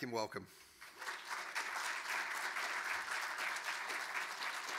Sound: audience clapping

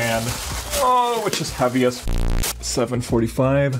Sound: bass boost sound effect

